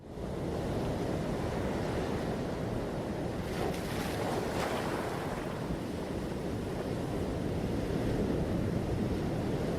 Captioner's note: sound of waves crashing on the beach